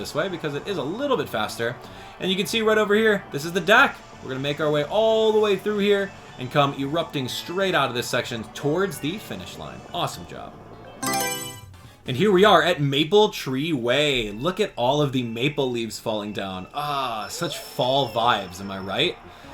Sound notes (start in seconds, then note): 11.0 Mario Selection Sound